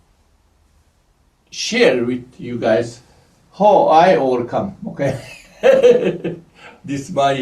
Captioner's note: laughs